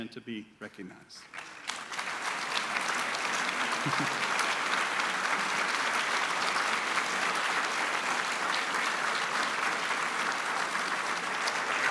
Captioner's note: applause